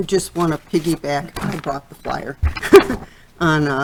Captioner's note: laughing